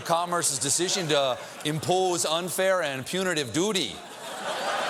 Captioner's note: laughter